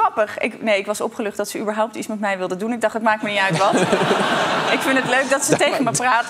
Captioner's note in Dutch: gelach